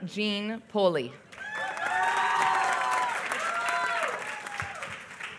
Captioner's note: applause